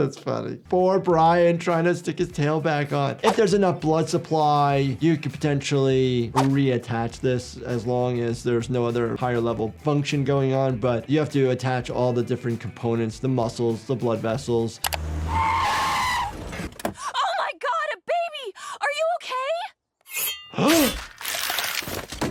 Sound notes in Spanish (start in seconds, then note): 14.9 chirrido de neumáticos; 19.6 el doctor jadea